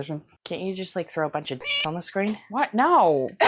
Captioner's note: meow